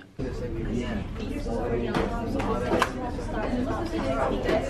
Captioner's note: students chatting